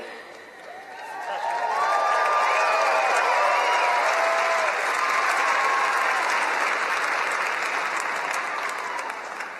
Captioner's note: applause